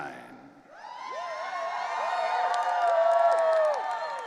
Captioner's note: audience cheering